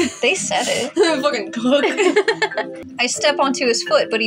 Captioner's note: laugh